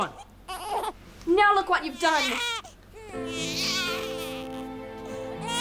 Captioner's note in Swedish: bebis som gråter